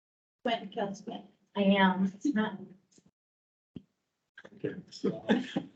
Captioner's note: members chattering and laughing